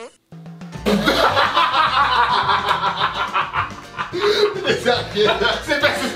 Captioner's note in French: Bruit de prout; Fou rire